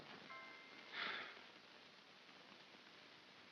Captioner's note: soft music; Ollie sighs